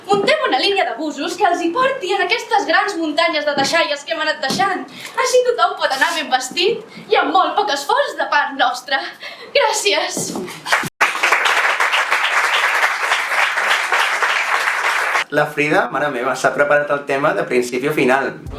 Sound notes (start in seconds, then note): 10.7 applause